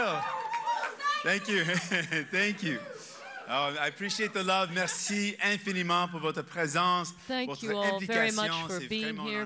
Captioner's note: cheers and applause